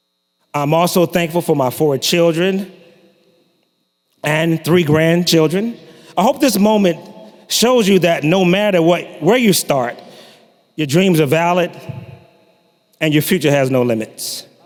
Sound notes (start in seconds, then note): none